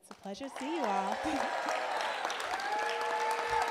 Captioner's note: applause